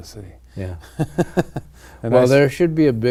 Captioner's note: laughing